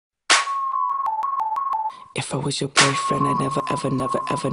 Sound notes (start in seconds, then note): 0.6 police sounds 🚨